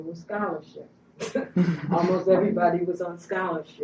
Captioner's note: laughter